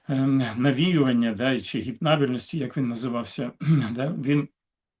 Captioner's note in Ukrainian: прочищення горла